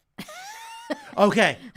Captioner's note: laughing